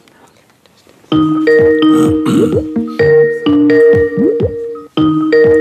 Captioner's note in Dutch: geluid Skype-oproep